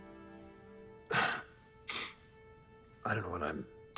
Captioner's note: clears throat